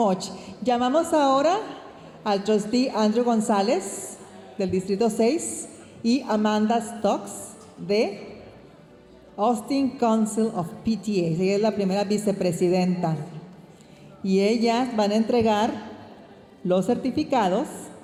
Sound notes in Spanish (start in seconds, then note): none